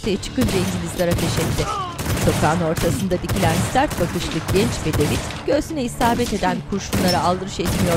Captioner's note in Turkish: Silah sesleri